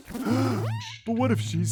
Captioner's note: blue monster gasping